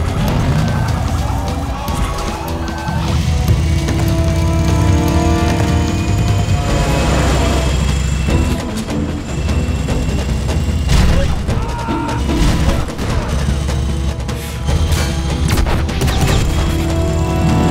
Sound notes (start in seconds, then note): 0.1 siren; 6.1 truck Horn; 15.4 bullets ricochet